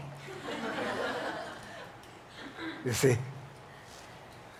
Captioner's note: audience laughs